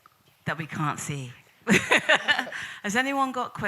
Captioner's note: laughs